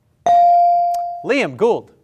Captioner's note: bell ring